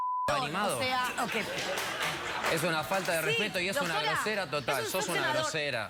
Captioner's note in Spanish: risas del público